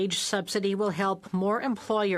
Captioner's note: speaking French